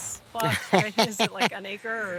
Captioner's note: laughing